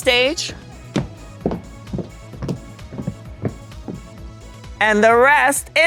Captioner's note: footsteps thudding